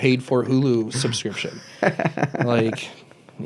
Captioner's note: laughs